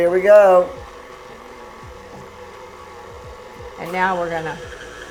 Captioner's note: machine whirs